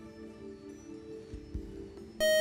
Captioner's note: beep